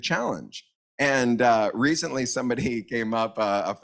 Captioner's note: laughs